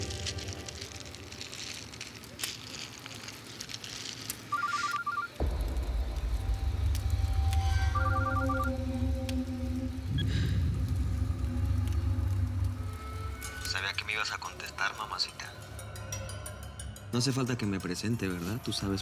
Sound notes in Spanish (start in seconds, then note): 0.1 crepitar del fuego; 4.5 suena el celular; 4.6 exhala